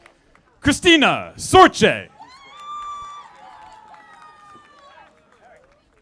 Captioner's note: audience applauding